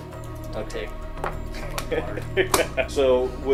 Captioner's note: laughing